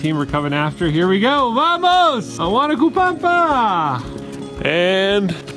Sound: in Spanish

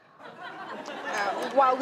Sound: audience laughs

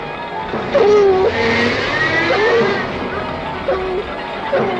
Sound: dogs yelping

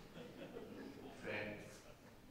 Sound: audience laughing

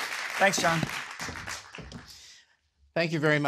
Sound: applause

